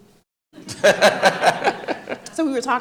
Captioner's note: audience laughing